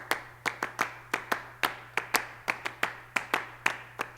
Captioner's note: rhythmic clapping